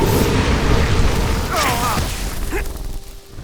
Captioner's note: Jessa roars; Kristov grunts